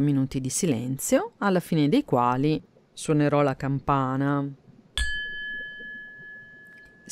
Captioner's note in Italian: suono di campana